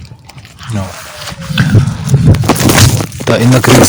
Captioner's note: sounds of explosions